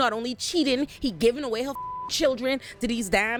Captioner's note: beep